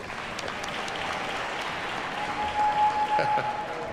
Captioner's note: audience applauds